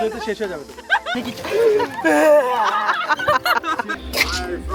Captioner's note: laughing & Screaming in cold